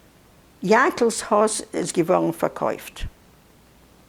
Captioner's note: yiddish